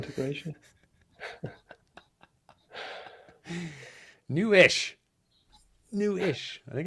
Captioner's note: laughs